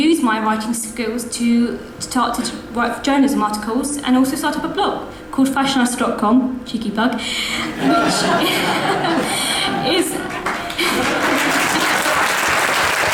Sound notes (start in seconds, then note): 7.6 audience laughs and applauds